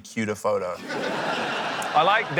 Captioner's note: laughter